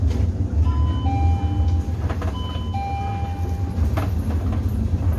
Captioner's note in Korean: 하차벨 소리